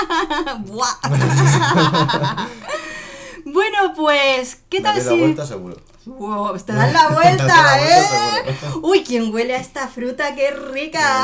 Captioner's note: laughs